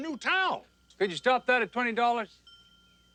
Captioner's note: bell ringing